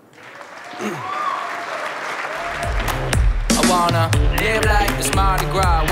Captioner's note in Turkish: alkış, müzik